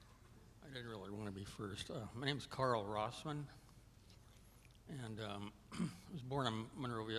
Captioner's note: clears throat